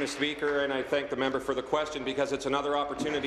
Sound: applause

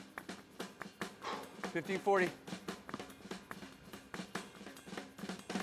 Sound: Marshall blowing

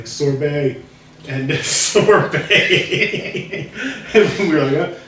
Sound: laughing

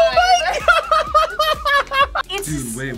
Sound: laughs

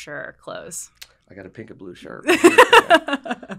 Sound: laugh

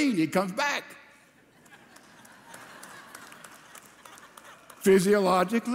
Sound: congregation laughing

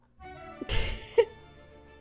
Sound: laughs

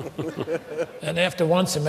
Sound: laughter

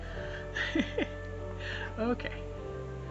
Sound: chuckle

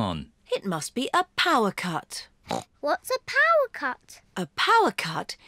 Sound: grunts

